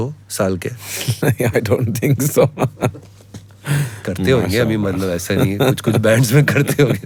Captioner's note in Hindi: हंसी